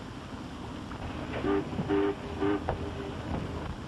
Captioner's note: foghorn blaring